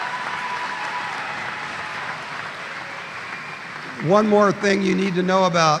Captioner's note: applause